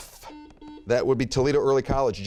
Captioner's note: buzzer beeping